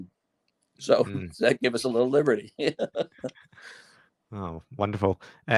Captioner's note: laughs